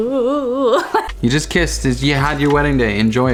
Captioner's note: laughing